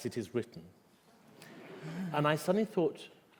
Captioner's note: laughter